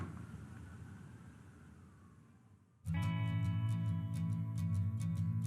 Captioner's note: door slams; faint sirens; guitar solo